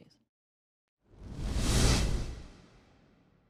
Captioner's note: whoosh